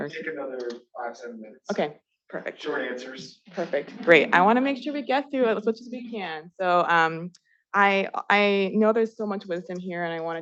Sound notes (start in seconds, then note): 3.5 attendees laughing